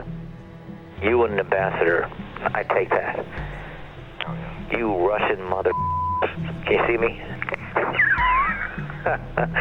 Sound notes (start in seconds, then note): 5.7 beep; 7.5 Rod and John laughing